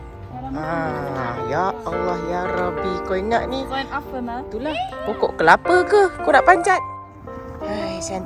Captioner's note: speaking German